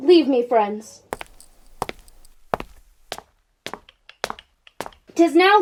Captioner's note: footsteps leaving